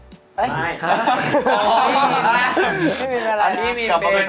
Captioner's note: everyone laughing